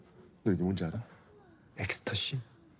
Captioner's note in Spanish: Thanos habla en coreano; locutor hablando en coreano; Thanos habla en coreano